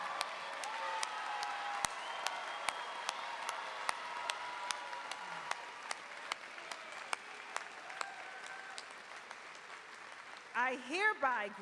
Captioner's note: applause